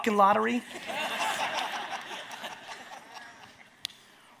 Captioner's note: audience laughs